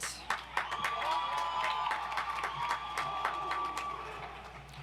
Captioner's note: audience applauds